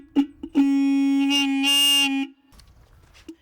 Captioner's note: horn blowing